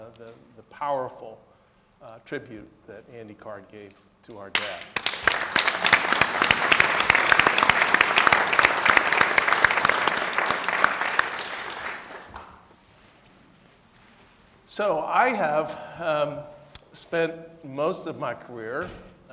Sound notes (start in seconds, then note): 4.5 audience clapping